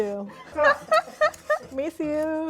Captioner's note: laughing